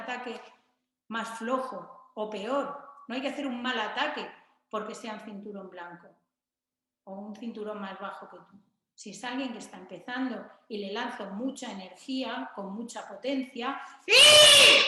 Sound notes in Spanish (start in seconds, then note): 14.0 kiai